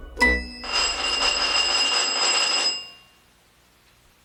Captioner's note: door bell rings